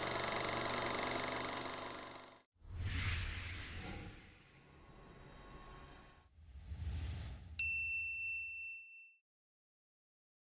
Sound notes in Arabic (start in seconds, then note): 2.8 نبرة درامية; 7.6 رنين الجرس